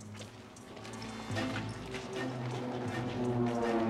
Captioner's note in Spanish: airplane buzzing